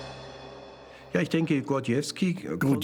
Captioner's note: speaking German